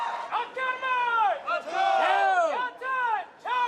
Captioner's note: cadre yelling